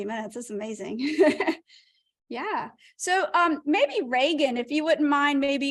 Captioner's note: laughter